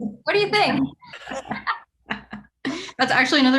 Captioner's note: group laughing